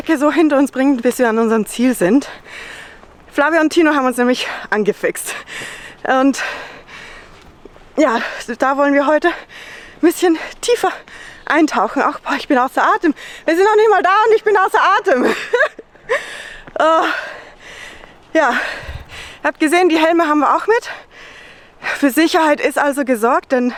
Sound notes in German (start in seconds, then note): 5.3 schnaufen; 17.9 Lachen